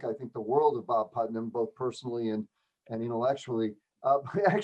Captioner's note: laughter